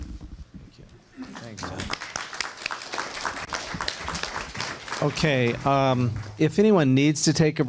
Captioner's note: applause